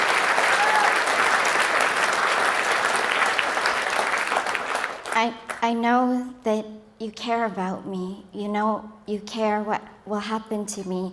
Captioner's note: applause